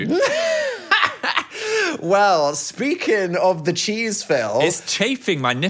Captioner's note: laughing